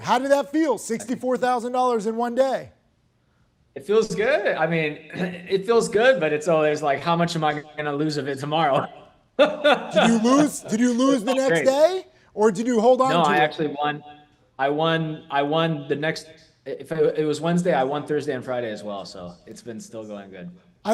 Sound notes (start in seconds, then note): 9.4 laughs